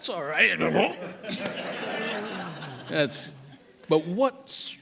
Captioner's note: laughter